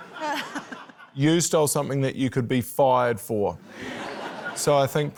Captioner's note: laughter